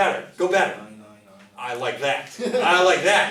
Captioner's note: voiceover